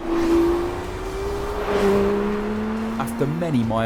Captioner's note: car roars